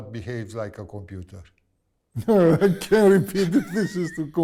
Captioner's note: laughs